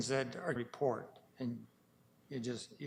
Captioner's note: audio drop